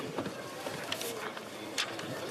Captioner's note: speaking French